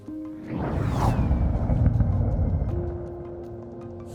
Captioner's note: jet roaring